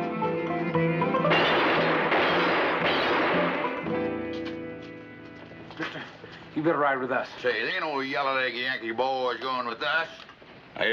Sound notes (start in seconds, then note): 1.3 gunshots banging